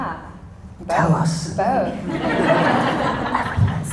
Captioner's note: audience laughter